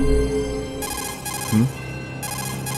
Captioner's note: Codec ringtone